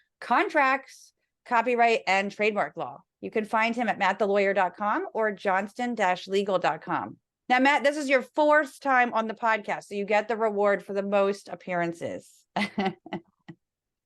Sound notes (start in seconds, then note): 12.6 laugh